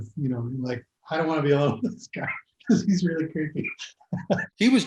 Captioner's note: laughing